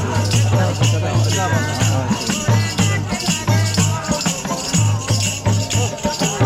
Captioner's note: chanting